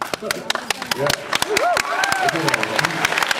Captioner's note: applauds, cheers